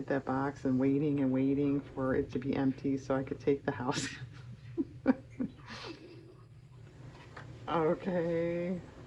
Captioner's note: laughs